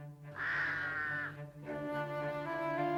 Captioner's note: cawing